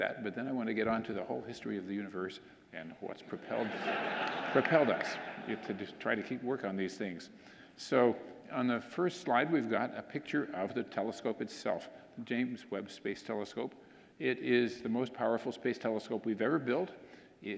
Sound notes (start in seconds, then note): 3.4 audience laughing